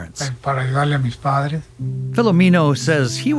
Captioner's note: speaking in foreign language